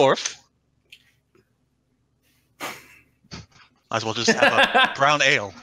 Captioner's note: laughter